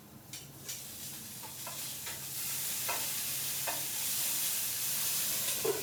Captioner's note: salmon sizzling